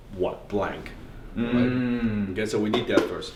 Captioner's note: mumbling approvingly